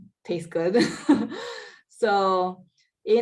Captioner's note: laughs